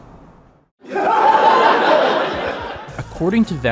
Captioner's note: laughter